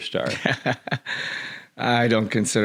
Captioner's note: laughs